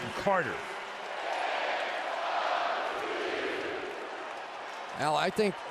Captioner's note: chanting